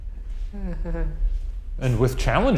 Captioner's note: chuckles nervously